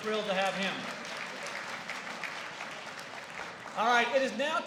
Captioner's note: applause